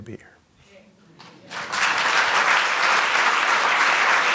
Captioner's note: applause